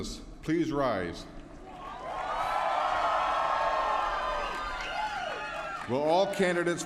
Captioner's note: applause